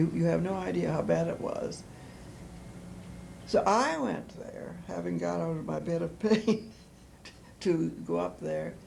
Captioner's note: laughter